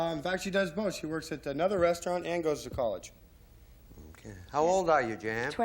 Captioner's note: none